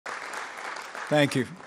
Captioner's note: applause